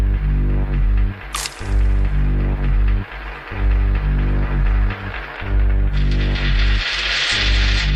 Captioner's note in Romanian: Aplauze